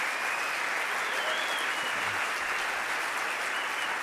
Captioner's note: cheering